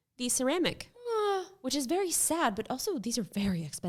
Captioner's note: sighing